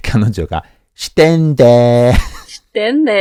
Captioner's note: osaka dialect